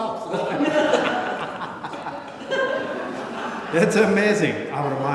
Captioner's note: laughter